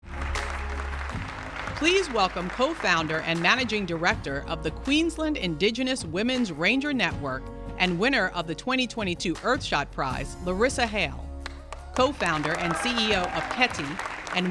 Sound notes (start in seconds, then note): 0.0 audience applauding; 0.0 soft music ending; 11.4 audience applauding